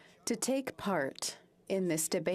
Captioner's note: speaking French